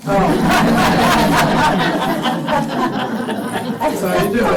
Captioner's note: laughter